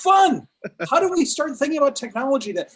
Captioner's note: laughs